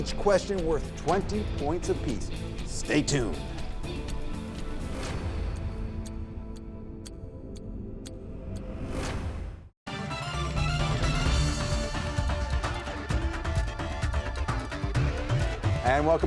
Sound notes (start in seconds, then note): 3.7 clock ticking; 9.9 upbeat music